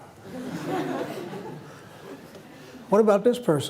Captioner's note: laughter